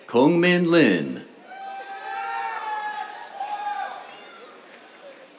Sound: cheers, applause

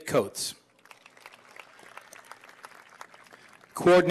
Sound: applause

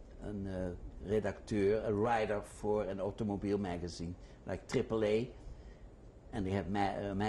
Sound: non-english

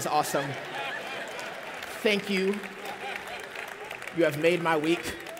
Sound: laughter

